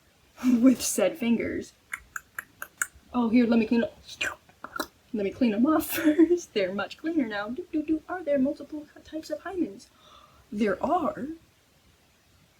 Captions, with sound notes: with said fingers, *click click click click CLICK* Oh here- lemme clean- *SLURP* *MOUTH POP* Lemme clean 'em off first. They're much cleaner now! Doot doot doot. "Are there multiple types of hymens? *gasp* There are!?"